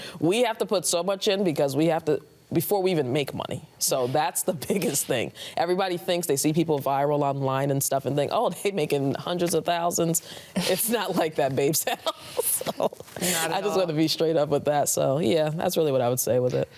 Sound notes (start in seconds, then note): 11.8 laughing